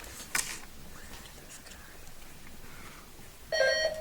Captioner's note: contestants whisper; buzzer beeps